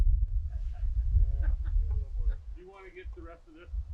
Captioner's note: laughing